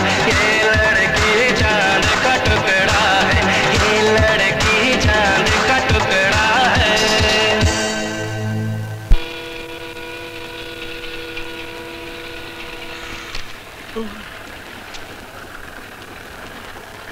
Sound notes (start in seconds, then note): 13.9 yawning